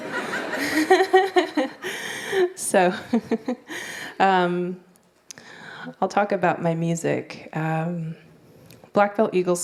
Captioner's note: laughter